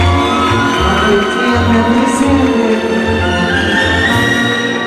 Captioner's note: Applause! Applause!